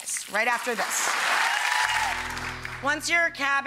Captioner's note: audience applauding loudly; guitar strums